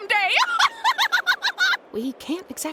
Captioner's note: cackles